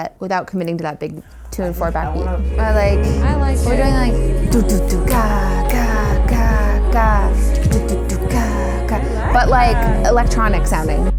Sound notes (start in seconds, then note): 4.6 vocalizing beats and rhythm